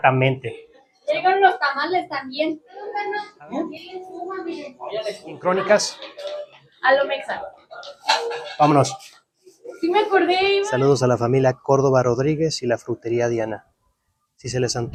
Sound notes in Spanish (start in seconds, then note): 3.3 familia conversando en español